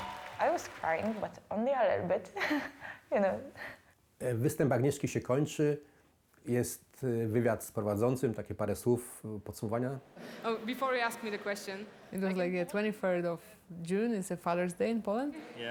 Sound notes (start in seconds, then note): 0.0 cheering; 2.9 laughs; 4.4 speaks in foreign language